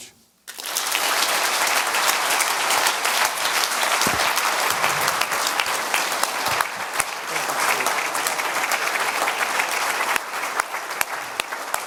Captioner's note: audience applause